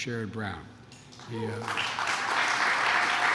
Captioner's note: applause